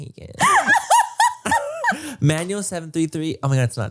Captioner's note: laughs